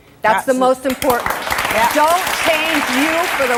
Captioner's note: audience applause